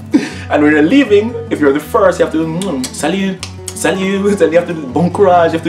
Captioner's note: kisisng sound